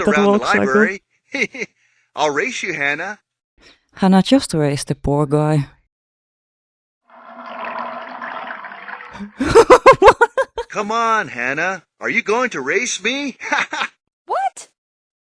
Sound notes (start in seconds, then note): 7.1 toilet flushing noises; 7.4 lols out loud